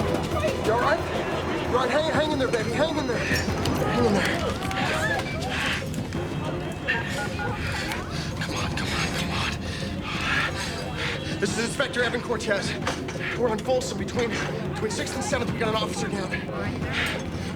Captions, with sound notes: Harve, you all right? All right, h-hang in there, baby, hang in there. Hang in there. (dialing) Come on, come on, come on. This is Inspector Evan Cortez. We're on Fulsom between... between Sixth and Seventh. We got an officer down.